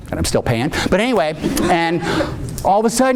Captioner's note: audience laughing